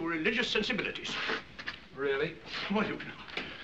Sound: blows Nose

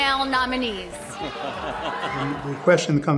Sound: crowd gasps

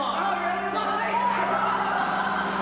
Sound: playful yelling; water splashes

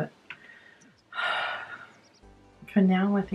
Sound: sighs

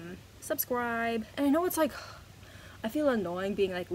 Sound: scoffs

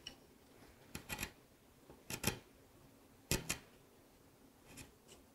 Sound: chisel rattles

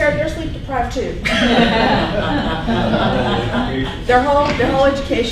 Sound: laughing

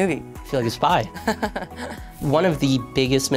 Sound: laughing

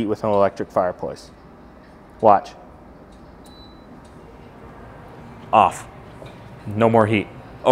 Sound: machine beeps

